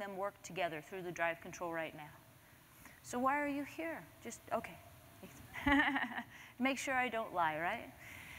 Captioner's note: laughter